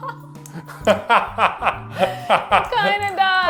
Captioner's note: laughs